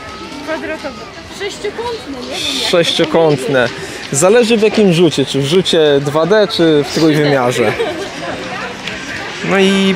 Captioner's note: laughter